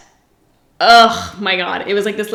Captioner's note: groans